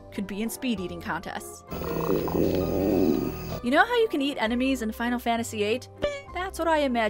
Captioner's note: gurgle